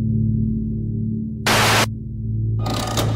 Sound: static AGAIN; lever Sounds

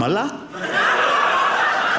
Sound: audience laughing

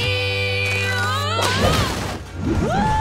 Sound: thudding

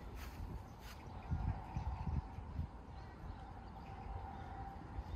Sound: breeze, greenness, and bird sounds

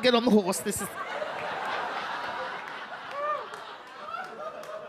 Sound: audience laugh

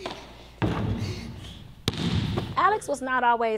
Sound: basketball hitting the floor

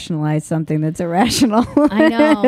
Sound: laughing

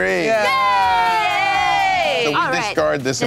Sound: cheering

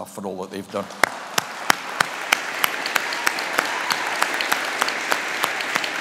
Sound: audience applauding

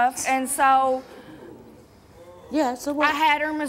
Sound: audience gasps

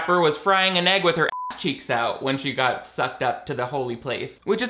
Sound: beep

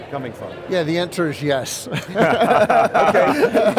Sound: laugh

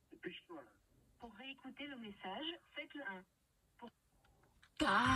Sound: voicemail

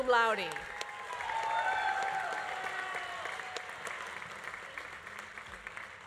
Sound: audience applauding; audience cheering

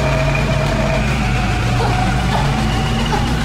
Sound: Agent spits up blood and bile; wind swirling, sirens blaring

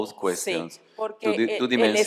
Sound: speaking spanish

